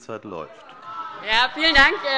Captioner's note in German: Heiterkeit